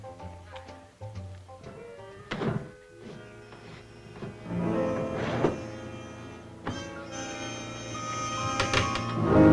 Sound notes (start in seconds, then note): 2.2 door opens; 4.7 suspenseful music